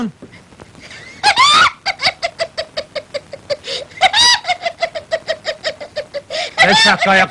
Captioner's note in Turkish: tavuk sesi̇ne benzer şeki̇lde ağlamaktadir